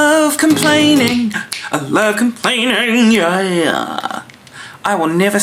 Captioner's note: clicks fingers